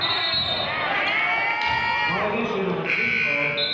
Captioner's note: whistling